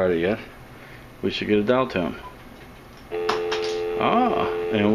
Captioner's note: dial tone noise